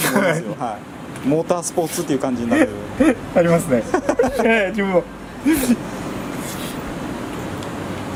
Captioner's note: laughs